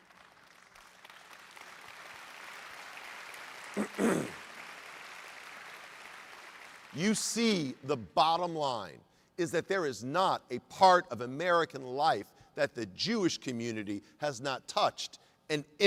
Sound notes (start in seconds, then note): 3.3 applause